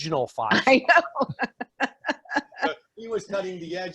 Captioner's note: laughing